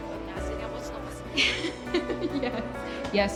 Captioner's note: chuckles